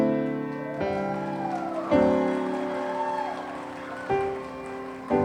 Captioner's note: audience cheering